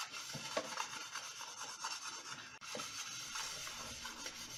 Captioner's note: scrubbing